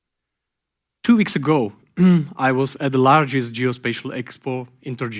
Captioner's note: clears throat